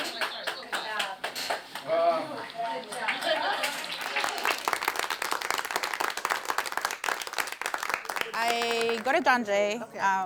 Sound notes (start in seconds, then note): 2.9 applause; 7.0 audience applause